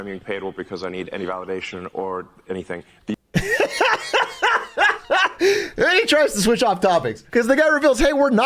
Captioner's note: laughs